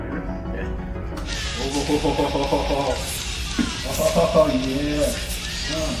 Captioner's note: Jack exclaiming; rock music